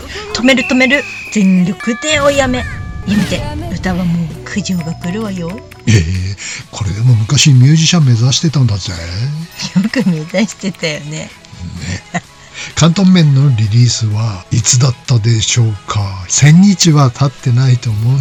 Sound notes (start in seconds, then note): 11.6 laughs